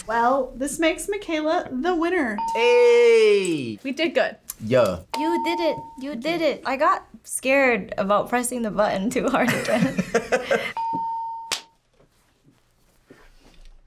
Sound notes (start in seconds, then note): 2.4 bell rings; 9.5 laughs; 10.7 bell rings